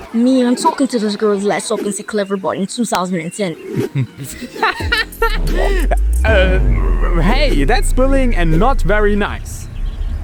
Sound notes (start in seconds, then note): 3.7 laughing